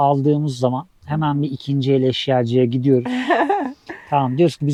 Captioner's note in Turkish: kahkaha